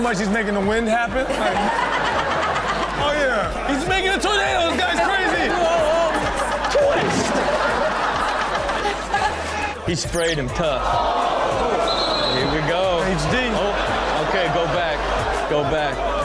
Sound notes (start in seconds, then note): 2.3 everyone laughs; 7.4 audience laughs; 10.8 audience groans